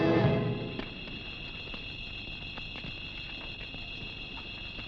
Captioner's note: dramatic music; fire crackling